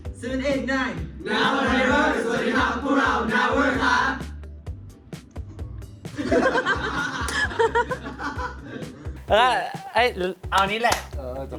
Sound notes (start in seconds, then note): 6.1 laughing